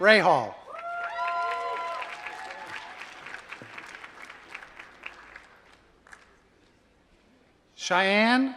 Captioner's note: applause